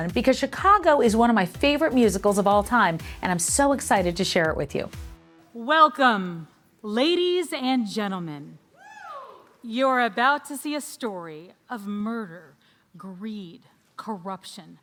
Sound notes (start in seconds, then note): 8.7 person cheering